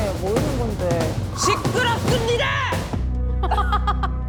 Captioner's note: in a demon drill instructor tone